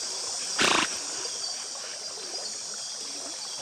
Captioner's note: otters calling